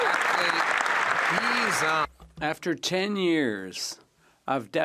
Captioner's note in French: voix de l'interprète